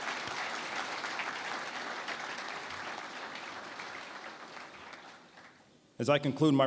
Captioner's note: applause